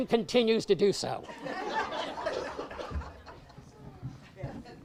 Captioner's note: audience laughs